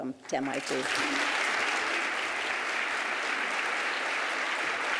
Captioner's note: applause